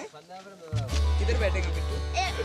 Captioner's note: non-english speech